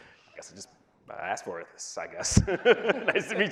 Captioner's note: laughs